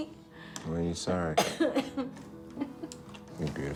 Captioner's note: Betsy coughs